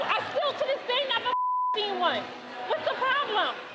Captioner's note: beep